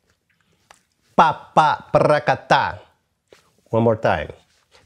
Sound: vocalizes rhythm

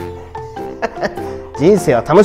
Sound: laughs

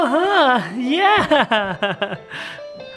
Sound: chuckling; piano music

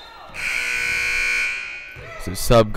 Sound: loud buzzer blaring; whistle blowing

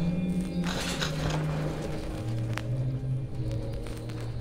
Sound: radio cracking

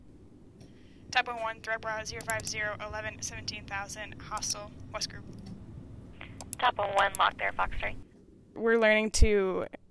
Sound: radio chatter

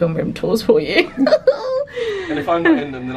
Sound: laughs

